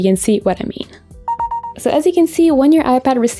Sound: notification dings

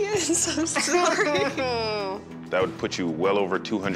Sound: both chuckle

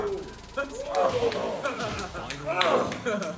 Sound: laugh; applause

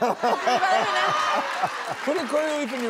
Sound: audience applauds

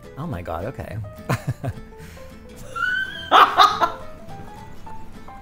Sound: laughing

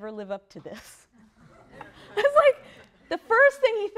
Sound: laughter

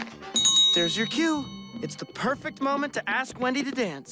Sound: bell rings

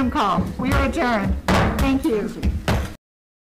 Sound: gavel bangs

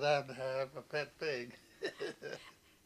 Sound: laughs

